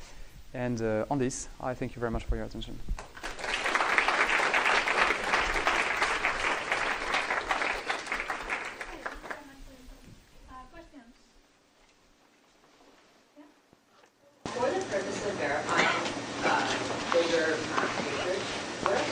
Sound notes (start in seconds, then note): 3.0 applause